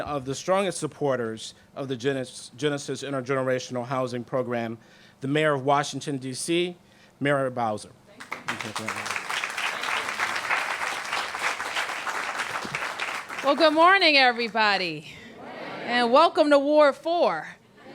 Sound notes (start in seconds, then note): 10.4 applause